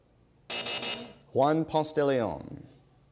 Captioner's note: buzzer